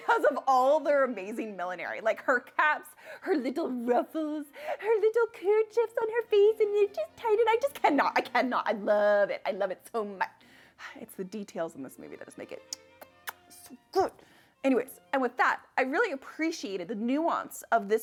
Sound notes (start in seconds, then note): 10.9 sighs; 12.7 makes kissing sound